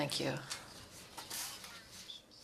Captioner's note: speaking French